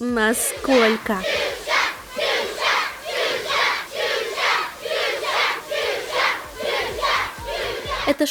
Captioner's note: children cry " " in chorus